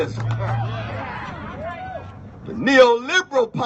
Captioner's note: cheers